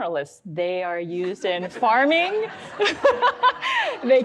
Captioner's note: audience laughs; laughs